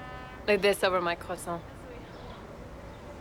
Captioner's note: french